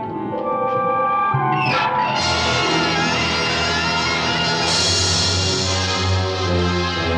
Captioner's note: door creaks; tense music